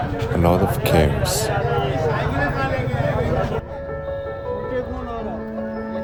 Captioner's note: non-english speech